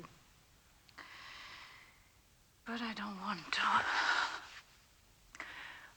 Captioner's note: sighs